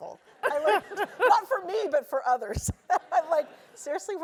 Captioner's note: laugh; laugh